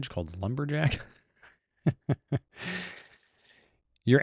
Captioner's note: laughs